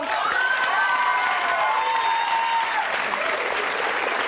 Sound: applauding

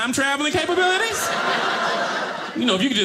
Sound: audience laughing

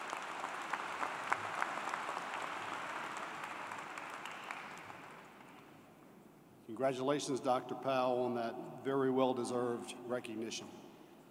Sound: applause

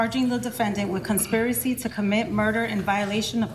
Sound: nats from court

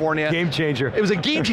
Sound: laughs

